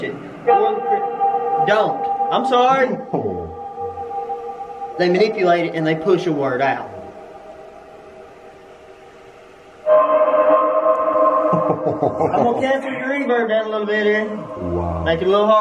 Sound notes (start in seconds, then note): 9.8 laughs; 9.8 metallic sound